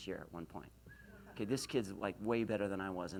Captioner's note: whistles